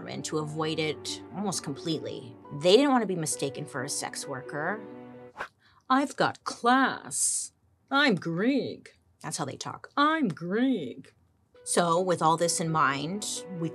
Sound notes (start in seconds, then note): 5.3 hair swishes